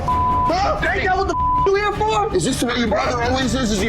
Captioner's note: beep